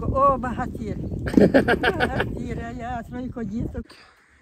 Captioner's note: laughing